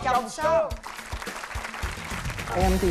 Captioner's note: applause